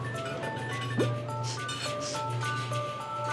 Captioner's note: sniffing